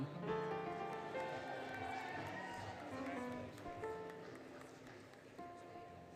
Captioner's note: applause, Cheering, Music